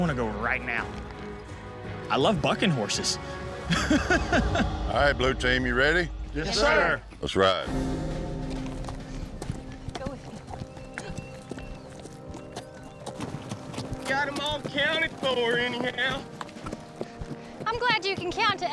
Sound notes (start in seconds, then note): 3.6 laughing